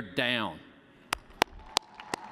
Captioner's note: cheers and applause